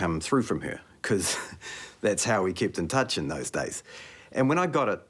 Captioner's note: chuckles